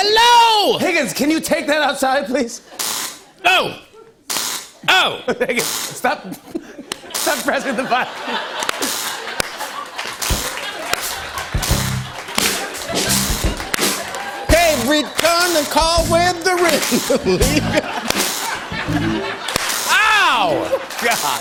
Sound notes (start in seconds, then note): 4.3 electricity zaps; 6.6 laughter and applause